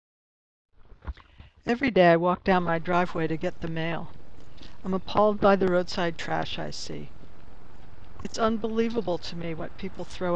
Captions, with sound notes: - Everyday I walk down my driveway [footsteps] to get the mail, [footsteps] I'm appalled by the roadside trash i see. It's unbelievable to me what people throw